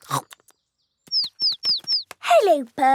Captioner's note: laughing; chirping